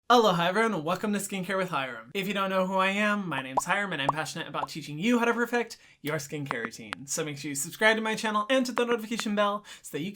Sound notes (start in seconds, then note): 3.5 bubbles popping